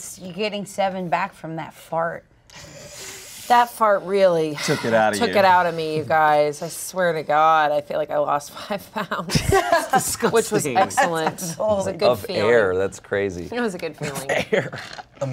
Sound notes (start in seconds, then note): 9.4 everyone laughs; 14.1 laughs